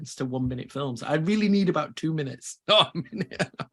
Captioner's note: laughs